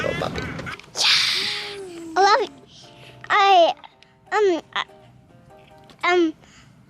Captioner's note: murmurs